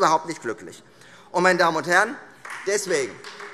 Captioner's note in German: Beifall Freie Demokraten